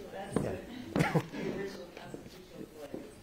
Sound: laughter

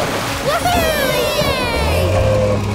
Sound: cheering

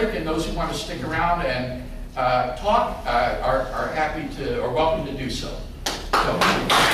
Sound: applause

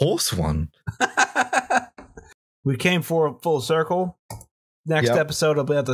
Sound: laughter

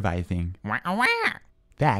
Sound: squawking angrily

